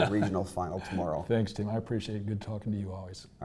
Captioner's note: laugh